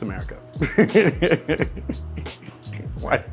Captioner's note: laughs